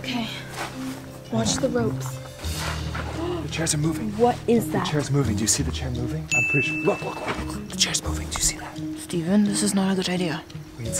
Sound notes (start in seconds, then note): 3.1 gasps; 6.3 ding